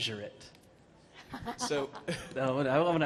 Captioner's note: laughing